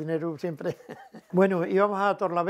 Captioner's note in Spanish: ríe